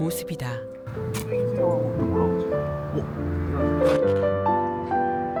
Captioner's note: exhaust sound heard from somewhere